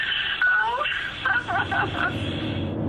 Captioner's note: sobbing